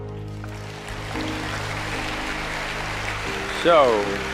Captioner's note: applause